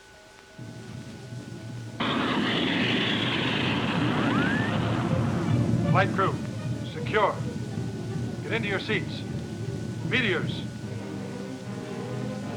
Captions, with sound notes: (monitor rumbling) - Flight crew, secure. Get into your seats. Meteors.